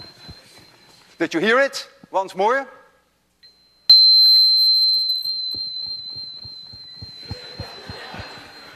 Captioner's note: high tone goes up and down slightly in pitch; tone goes up and down quickly again; class laughs